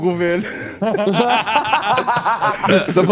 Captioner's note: laughing